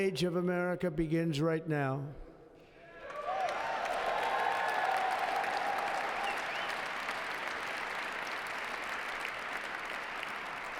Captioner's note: applause